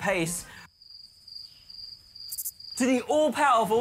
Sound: crickets chirrup

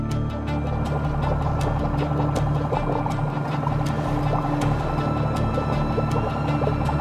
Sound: dramatic music; boat spluttering

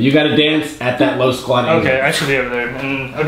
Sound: voiceover

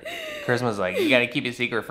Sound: chuckles

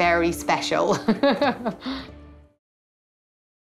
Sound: laughs

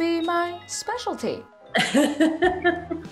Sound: laughs

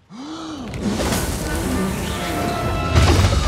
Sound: Maui blows; water splashes

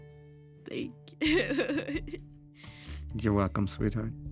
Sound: laughs

